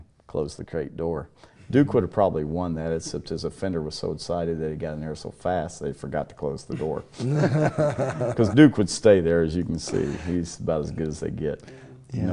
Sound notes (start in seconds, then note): 6.8 laugh